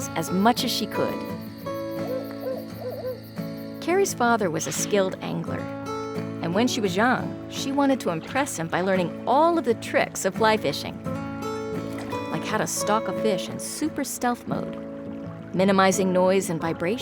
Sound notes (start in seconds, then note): 1.3 owl hooting